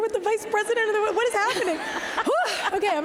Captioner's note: laughter